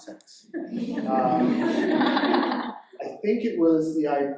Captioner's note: audience laughing